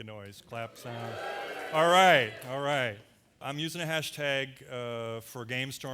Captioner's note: audience makes various noises